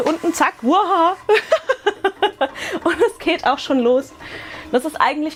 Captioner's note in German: Gelächter